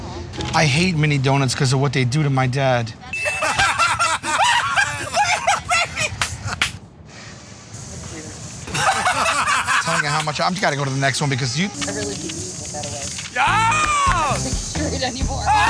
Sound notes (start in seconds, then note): 3.2 laughter; 6.5 claps